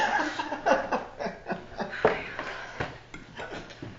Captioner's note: laughing